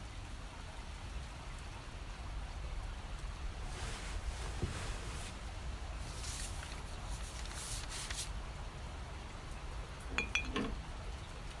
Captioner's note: rain falling; paper rustles. the clink of bottles, the open of another